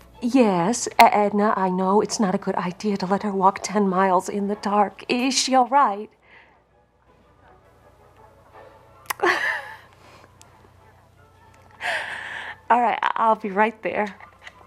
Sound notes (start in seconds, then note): 7.0 Aunt Edna chattering; 9.1 Laura laughs